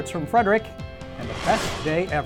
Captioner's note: whooshing